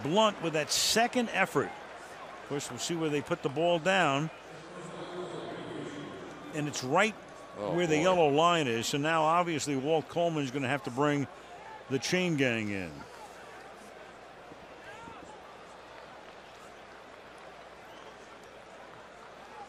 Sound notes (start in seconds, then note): 5.2 pa announcement